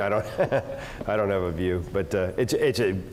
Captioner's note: laugh